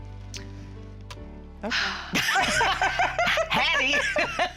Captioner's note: laughing